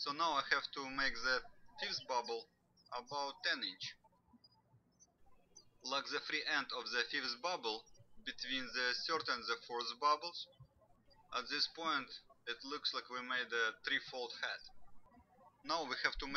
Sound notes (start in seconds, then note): 5.1 birds chirping